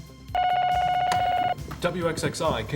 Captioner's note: graphic dinging; telephone ringing